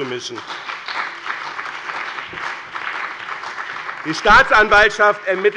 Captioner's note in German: Beifall bei dem BÜNDNIS 90/DIE GRÜNEN und der CDU